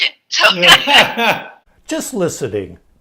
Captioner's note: laughter